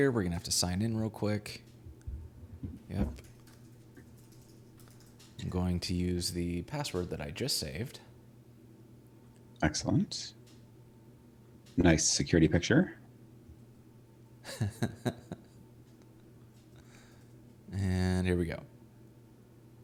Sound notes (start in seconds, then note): 14.4 laughing